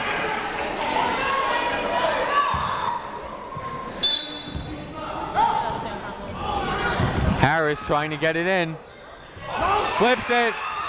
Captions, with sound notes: (whistle tweeting) (people shouting in the crowd) Harris trying to get it in. Flips it!